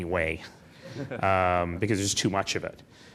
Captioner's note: laughing